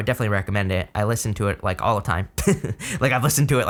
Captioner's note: chuckles